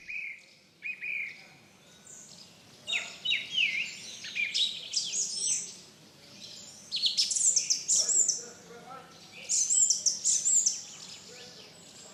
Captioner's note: bird Song